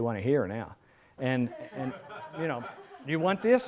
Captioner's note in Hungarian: Nevetés